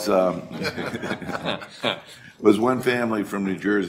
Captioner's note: laughter